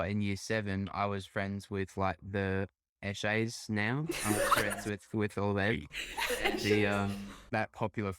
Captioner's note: laughter